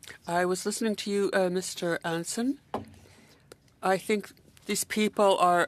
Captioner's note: speaking French